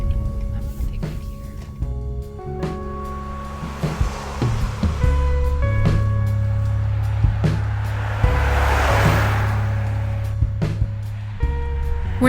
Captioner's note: sounds of driving in the car